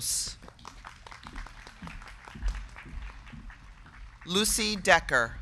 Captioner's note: crowd clapping